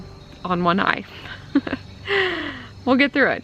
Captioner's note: laughing